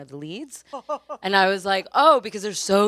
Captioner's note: panelist laughs